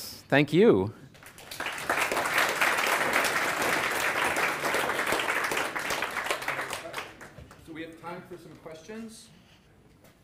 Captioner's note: applause